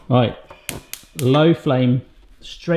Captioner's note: stove top clicking